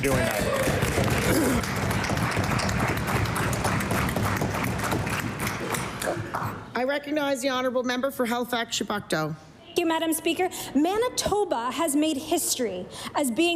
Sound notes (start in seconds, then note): 5.7 applause